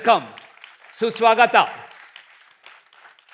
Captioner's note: speaking hindi; applause